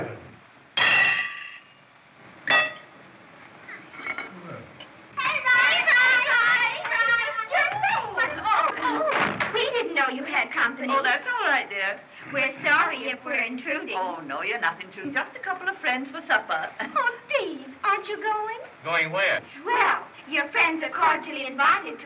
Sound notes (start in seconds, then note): 0.2 fork Rattles On Plate; 2.4 utensil Strikes Plate; 12.1 in Unison